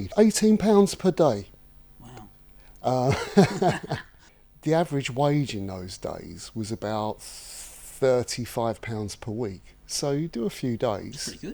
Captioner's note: laughs